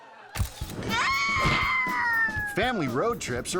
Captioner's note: camera snapping; child screaming; air whoosh